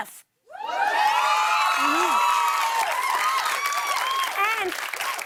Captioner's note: cheers and applause